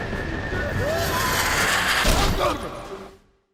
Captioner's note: grunts